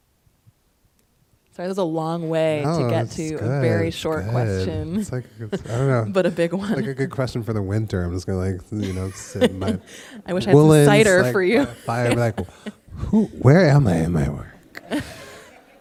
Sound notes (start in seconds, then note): 8.8 laughs